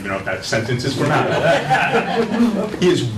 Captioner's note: laughter